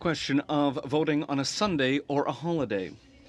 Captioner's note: speaking French